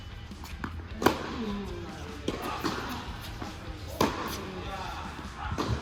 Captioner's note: tennis balls being hit